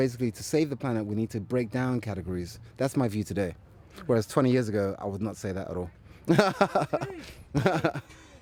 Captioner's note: rires